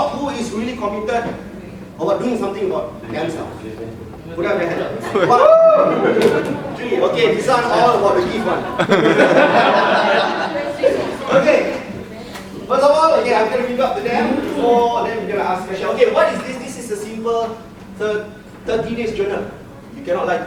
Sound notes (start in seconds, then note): 5.2 cheering; 9.4 audience laughing